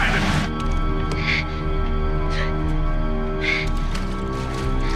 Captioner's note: gasping